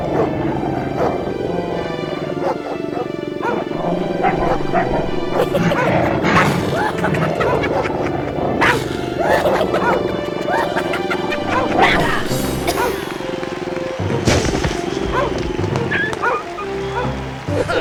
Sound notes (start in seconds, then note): 1.6 狼咆哮声; 6.6 土狼笑声